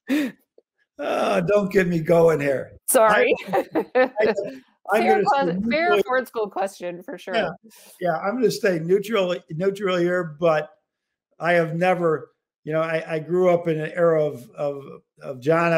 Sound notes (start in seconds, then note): 1.0 chuckle